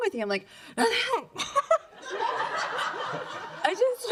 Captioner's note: giggle